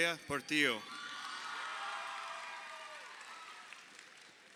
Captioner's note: crowd cheering